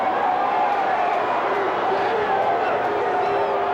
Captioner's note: crowd boos